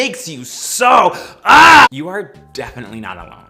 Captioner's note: screams